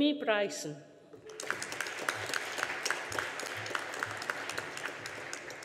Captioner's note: audience applauding